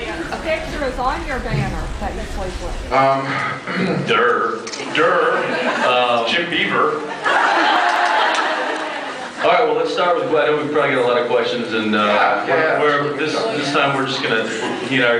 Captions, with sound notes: Whose picture is on your banner that you sleep with? Um... [clears throat]. Dur. Dur... Jim Beaver. Um... [laughs] All right, well let’s start with -- I know we’ve probably got a lot of questions and uh... Yeah. Yeah, yeah. We’re -- we’re -- this -- this time we’re just gonna -- we’re -- he and I